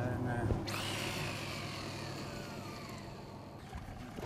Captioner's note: rod whirring